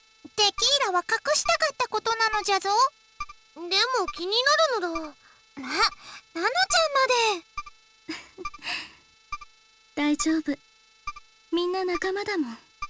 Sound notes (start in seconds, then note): 6.1 sigh; 8.1 giggle